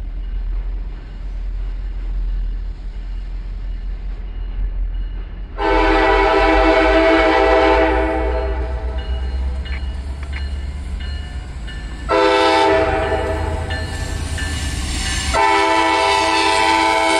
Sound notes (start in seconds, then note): 5.5 train horn; 12.0 train horn; 14.1 bell, squeal and horn